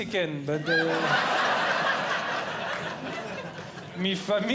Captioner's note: audience Laughing